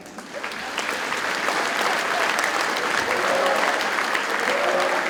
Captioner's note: audience cheers and applauds